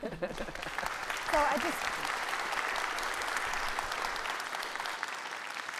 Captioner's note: audience clapping